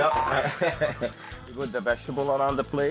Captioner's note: laughing